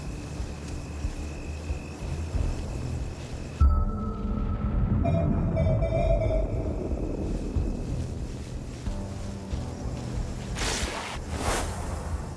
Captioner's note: whooshing